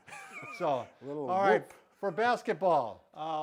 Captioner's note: chuckles